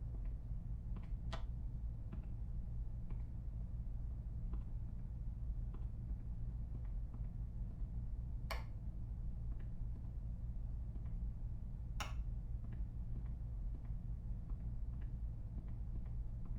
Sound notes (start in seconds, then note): 3.4 soft, pattering footsteps; 8.5 soft, pattering footsteps; 8.5 switches click